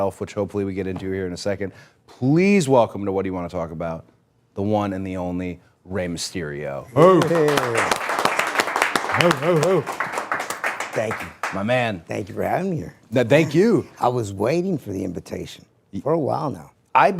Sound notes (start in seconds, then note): 7.0 people clapping; 10.0 Rey shouting